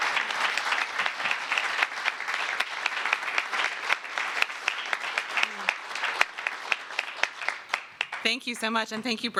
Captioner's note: applause